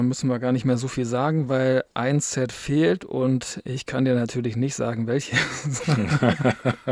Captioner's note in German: gelächter